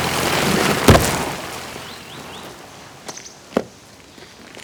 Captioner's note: footsteps; car whirs